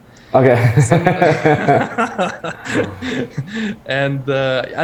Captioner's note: both laugh